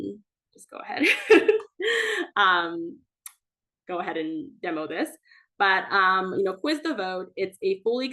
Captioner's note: laughs